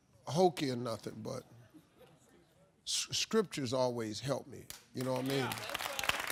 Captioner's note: audience applauding